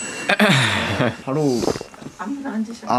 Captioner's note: gulp